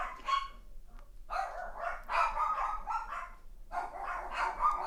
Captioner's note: dogs barking